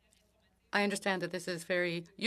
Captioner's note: speaking French